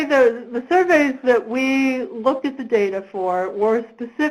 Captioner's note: voiceover